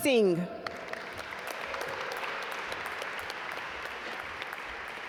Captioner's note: audience applaud